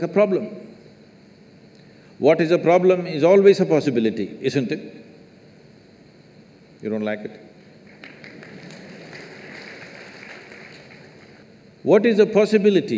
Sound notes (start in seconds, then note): 10.6 applause